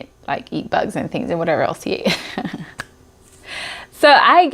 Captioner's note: chuckles